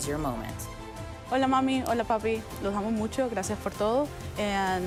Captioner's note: graduate speaking Spanish